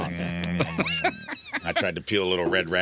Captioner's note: laughing